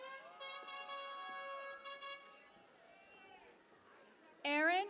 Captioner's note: cheering and Applause